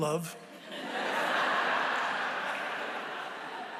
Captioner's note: laughter